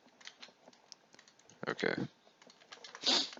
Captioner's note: vocalic filler